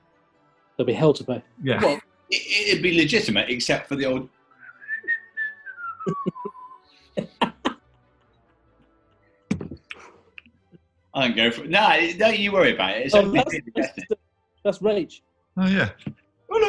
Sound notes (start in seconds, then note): 4.5 whistling; 7.2 laughing; 16.5 falsetto